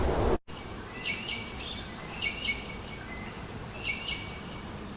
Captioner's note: birds chirping